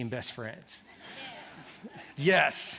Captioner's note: laughter